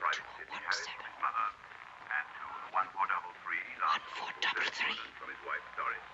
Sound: Betsie whispering the numbers

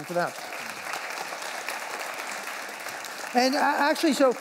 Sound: applause

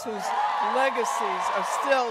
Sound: audience cheering and applauding

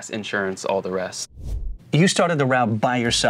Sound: air swooshing

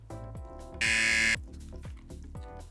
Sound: buzzer

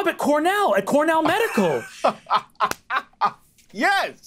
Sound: laughing

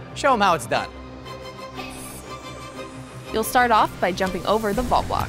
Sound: voice-over

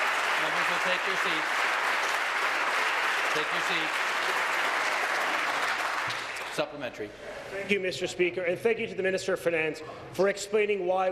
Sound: applause

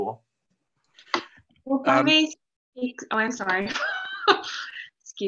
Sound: laughs

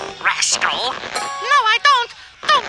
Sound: high pitched voice

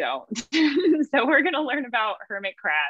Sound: laughs

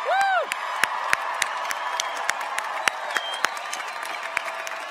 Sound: applause

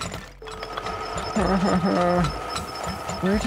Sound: crying

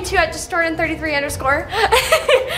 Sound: laughs

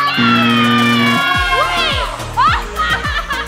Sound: buzzer sounds; laughing

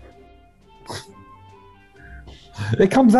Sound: chuckles

